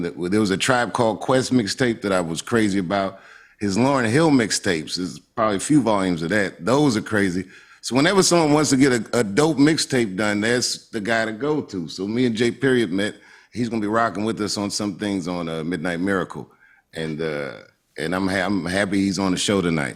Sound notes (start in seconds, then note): none